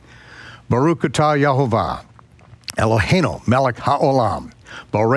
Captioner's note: speaks in foreign language